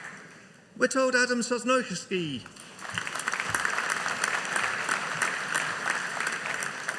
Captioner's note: audience applauding